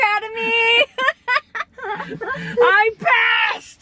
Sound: laughing

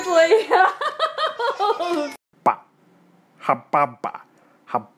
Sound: laughs

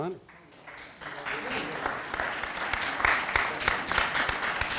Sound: audience applauding

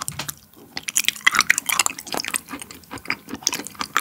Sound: crunchy

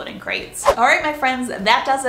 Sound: whooshing

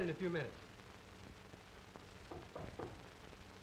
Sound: knocking

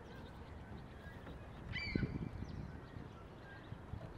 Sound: seagulls chirping

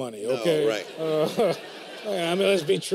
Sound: laughter

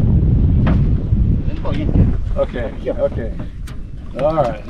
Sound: clattering

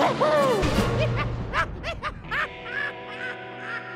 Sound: laughing

